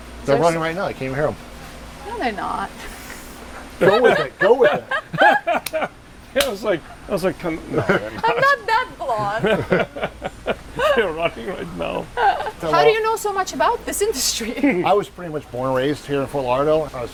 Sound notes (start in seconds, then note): 3.8 laughs; 9.8 laughs